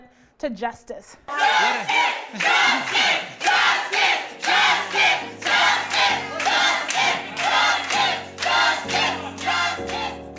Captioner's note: cheering Justice! Justice!